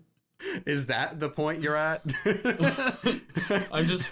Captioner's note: laughs